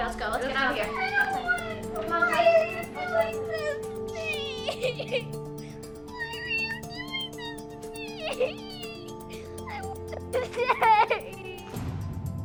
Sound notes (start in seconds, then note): 3.1 crying